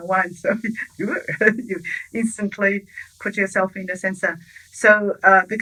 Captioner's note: chuckles